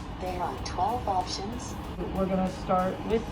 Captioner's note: computerized Voice